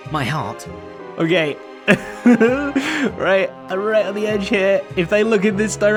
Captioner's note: nervous chuckle